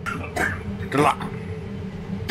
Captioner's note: cough